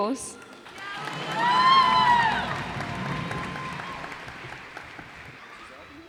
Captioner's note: cheers and applause